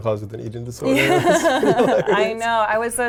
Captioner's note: laughs